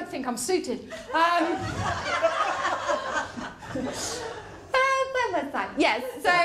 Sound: laughter

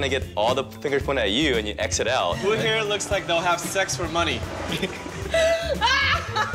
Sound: laughter

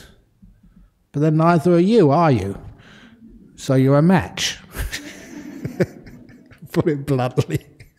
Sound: laughter

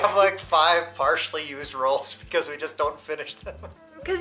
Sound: laughter; laughter

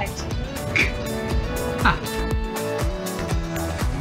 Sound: laughs

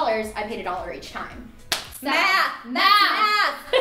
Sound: clapping

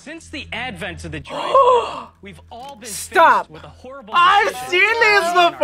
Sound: gasps

